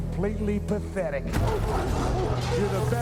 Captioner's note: dog barking